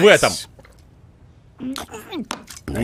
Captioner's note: muffled retch